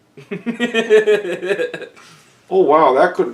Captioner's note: laughter